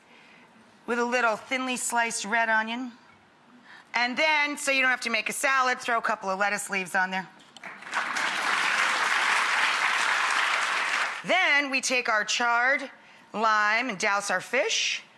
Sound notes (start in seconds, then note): 7.6 audience clapping